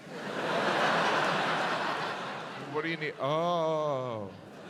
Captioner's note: audience laughs